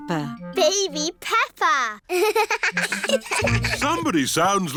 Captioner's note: both laugh